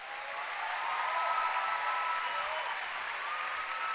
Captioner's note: cheering and applause